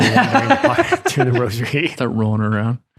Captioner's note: laughing